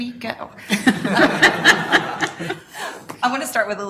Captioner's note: laughter among committee